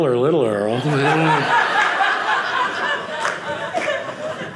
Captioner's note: audience laughing